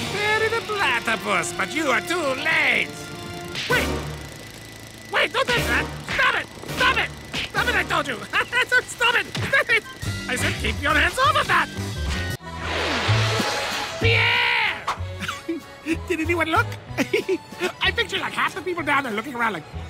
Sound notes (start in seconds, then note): 16.9 giggling